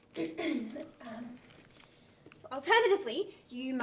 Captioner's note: clears throat